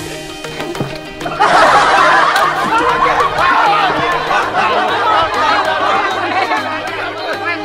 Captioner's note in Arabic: يضحك